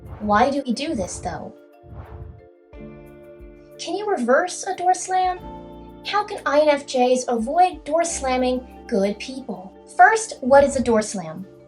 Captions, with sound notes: Why do we do this, though? *swoosh* Can you reverse a door slam? How can INFJs avoid door slamming good people? First, what is a door slam?